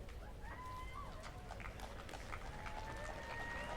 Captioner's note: applause